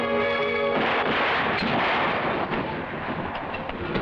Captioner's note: gun firing; train chugging